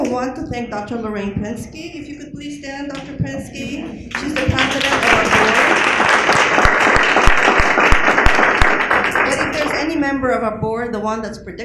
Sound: applause

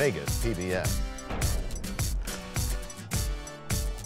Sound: crashing sound

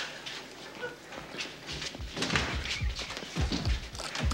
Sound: heart beating

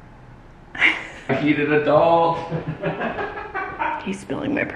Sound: laughing

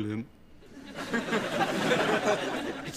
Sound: audience laughs

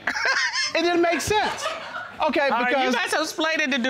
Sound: chuckling

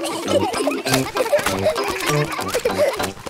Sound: kids giggling

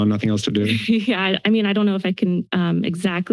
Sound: chuckles

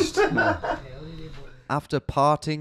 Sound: laughs

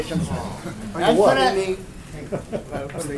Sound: laughter

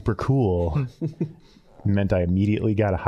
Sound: all chuckling

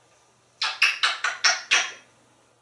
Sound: kisses

